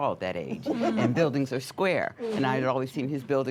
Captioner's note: light laughter